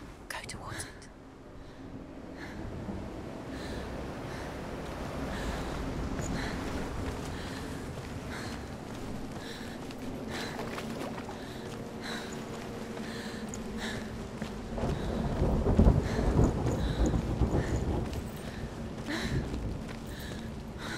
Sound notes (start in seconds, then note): 0.6 whisper; 8.0 labored breathing